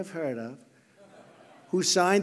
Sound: laughter

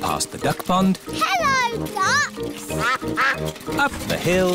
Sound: quacking

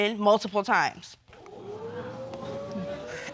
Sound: audience exclaiming

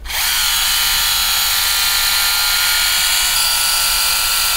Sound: polisher whirling

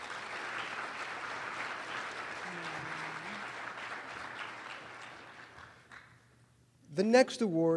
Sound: applause

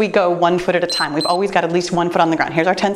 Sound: timer beeps

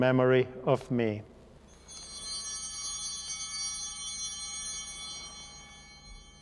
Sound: chimes ringing

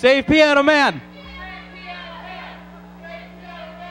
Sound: crowd

